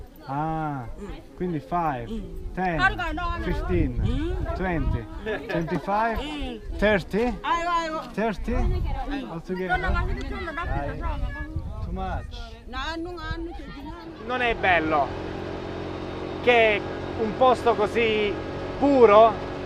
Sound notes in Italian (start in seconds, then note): 7.9 Inglese; 11.8 Inglese